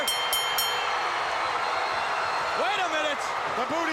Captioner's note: bell ringing